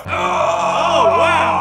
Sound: yelling in deep voice

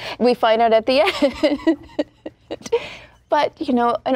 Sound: laughing

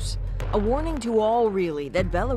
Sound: speaking alternate language

